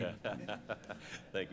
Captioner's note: laughter